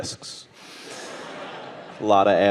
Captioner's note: audience laughing